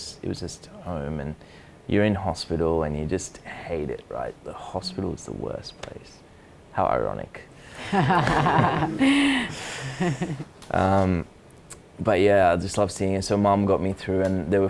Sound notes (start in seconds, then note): 7.7 audience laugh